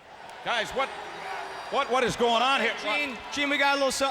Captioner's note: crowd clamoring